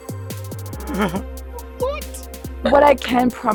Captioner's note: chuckles